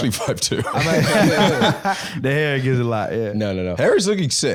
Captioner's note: laughs